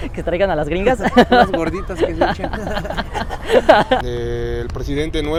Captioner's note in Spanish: risas